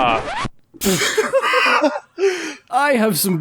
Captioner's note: laughter